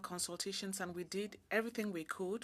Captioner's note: speaking French